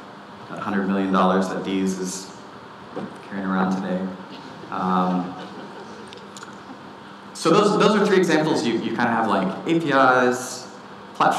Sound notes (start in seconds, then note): 4.3 audience laughting